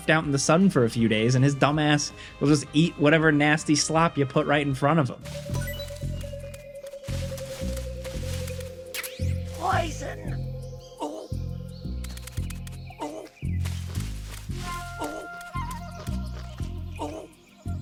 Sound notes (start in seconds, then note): 5.6 trap dinging; 7.1 leaves rustling